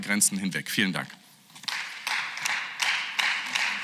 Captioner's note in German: Beifall